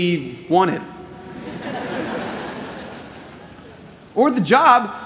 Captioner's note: laughter